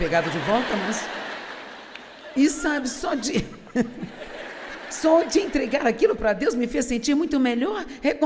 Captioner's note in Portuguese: risos